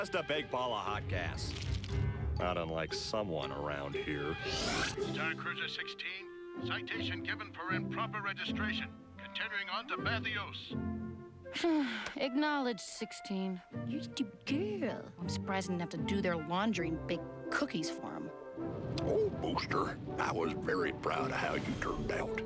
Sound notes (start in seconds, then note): 11.6 sighs; 13.9 mockingly